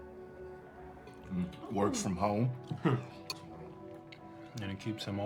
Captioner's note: chuckles